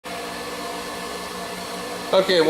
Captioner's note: motor rattling